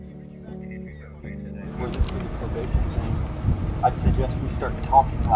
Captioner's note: wind blowing drowns out speaker